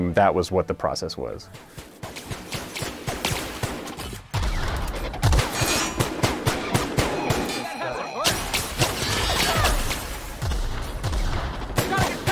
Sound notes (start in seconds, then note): 1.5 gunshots; 5.1 explosion; 6.0 gunshots